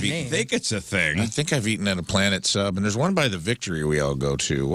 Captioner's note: none